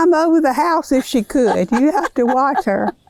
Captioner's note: laughs